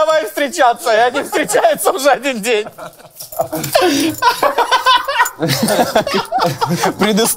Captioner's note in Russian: смех